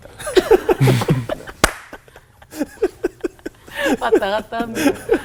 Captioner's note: laughing